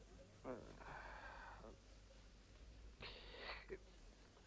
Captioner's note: Rothrar grumbles